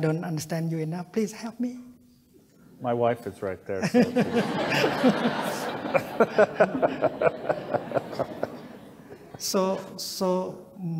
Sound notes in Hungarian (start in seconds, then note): 3.8 Thay, közönség, és Doty nevetnek